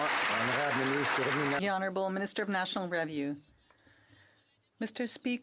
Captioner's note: some Applause